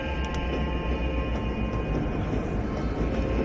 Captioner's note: train rumbles, music continues